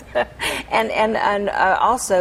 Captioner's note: laughter